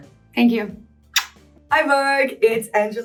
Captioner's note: lip smacking